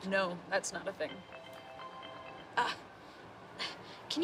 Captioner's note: phone rings